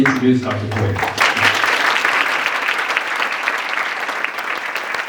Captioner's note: audience applauds